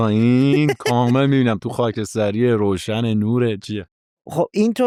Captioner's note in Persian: خنده